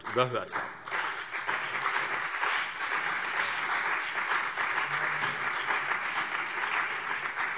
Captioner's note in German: Beifall CDU und BÜNDNIS 90/DIE GRÜNEN